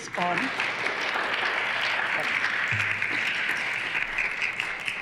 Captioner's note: applause